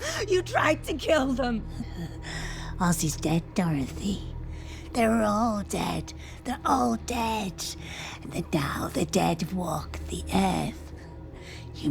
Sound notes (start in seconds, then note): 2.3 laughs